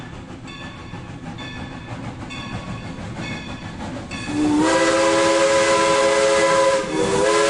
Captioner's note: train sounds